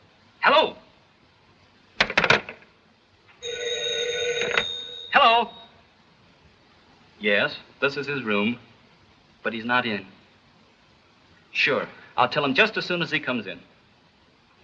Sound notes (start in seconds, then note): 3.4 phone rings